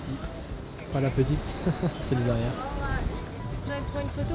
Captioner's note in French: rire